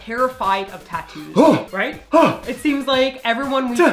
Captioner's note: gasps